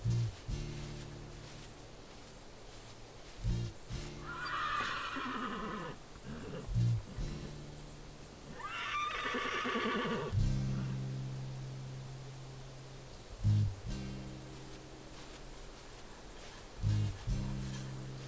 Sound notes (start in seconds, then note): 4.2 horse whinnying; 13.3 footsteps pattering